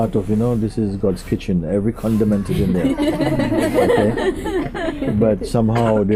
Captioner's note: laughter